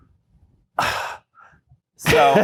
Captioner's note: exasperated sigh